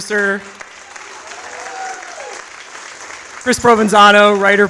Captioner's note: audience applauds